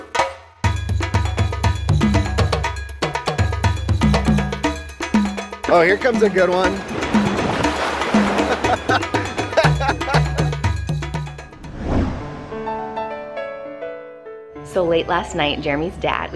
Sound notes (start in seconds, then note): 0.2 tropical music; 8.2 laughter